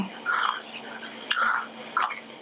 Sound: interference noise returns

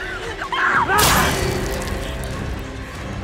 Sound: blood spatters

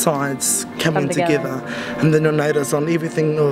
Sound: voiceover

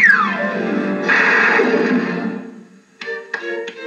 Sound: crash; tap Tap Tap

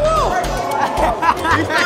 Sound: laughter

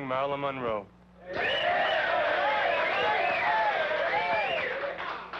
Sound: congregation cheering

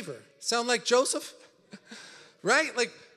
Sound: laughs

